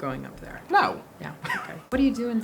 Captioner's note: laughs